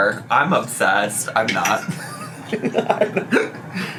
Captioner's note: laughs